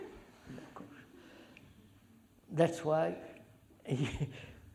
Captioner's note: laughter